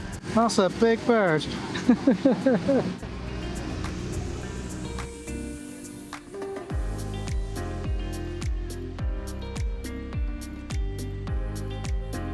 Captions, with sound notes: That's a big bird. (laughs)